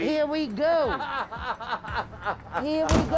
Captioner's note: man laughs